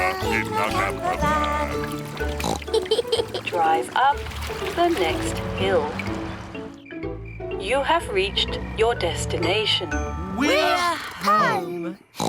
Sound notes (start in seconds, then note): 2.3 oinks and giggles; 12.2 oinks